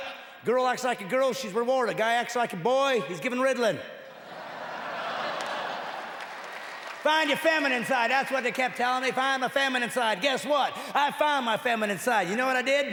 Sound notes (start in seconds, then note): 6.9 laughter